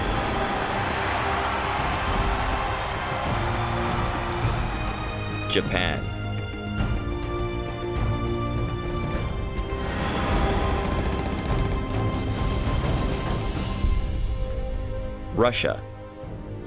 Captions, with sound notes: (cheering) Japan. (guns fire) Russia.